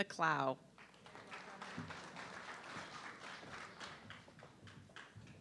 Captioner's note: audience clapping